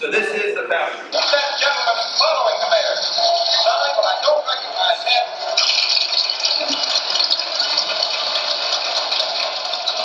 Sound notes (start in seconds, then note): 5.6 party sounds